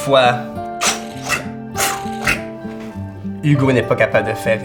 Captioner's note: vocalizing a spinning top